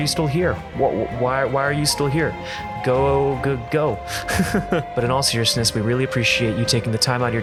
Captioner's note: laughs